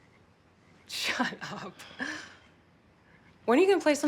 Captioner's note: chuckling